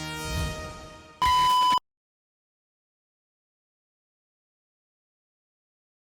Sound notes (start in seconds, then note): 1.2 beeping